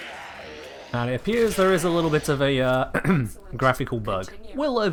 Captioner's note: ahem